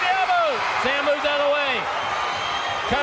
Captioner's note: crowd cheering